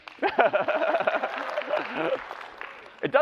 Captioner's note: clapping; laughs